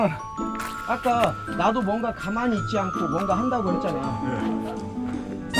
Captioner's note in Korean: 터벅터벅